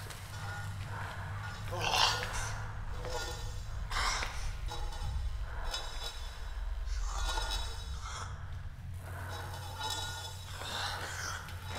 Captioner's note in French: Le monstre râle et gratte le sol